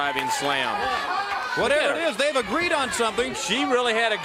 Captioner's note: crowd cheering